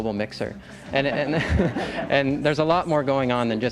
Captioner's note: laughs